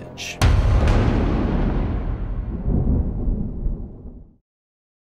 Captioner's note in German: thunder